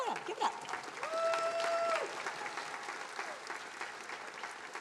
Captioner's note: attendees applauding